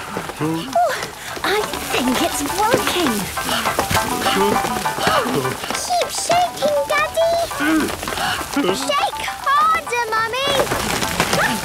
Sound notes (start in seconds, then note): 3.2 all panting; 7.6 all groaning; 10.2 exclamations